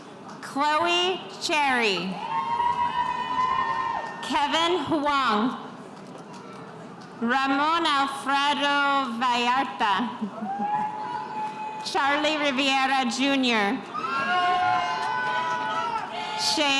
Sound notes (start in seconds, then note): 2.1 spectators cheering; 13.8 spectators cheering